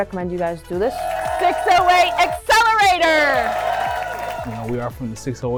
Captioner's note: crowd cheering